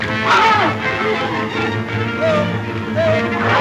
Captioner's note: man grunting